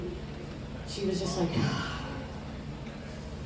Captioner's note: sigh